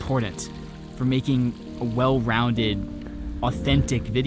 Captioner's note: cow bell clanging; stream flowing